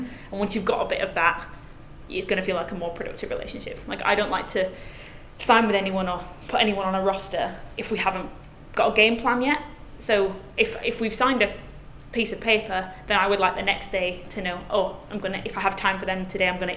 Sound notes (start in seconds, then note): none